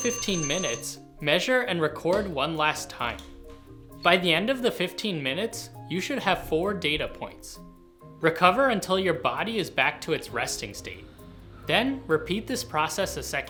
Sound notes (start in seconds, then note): none